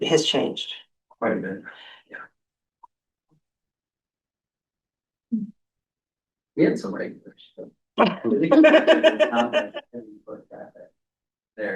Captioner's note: laughter